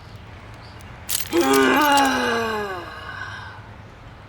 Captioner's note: frustrated sigh